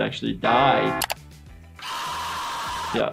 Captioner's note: screaming